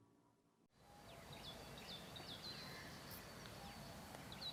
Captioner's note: birds chirping